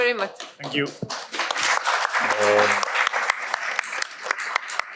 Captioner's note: applause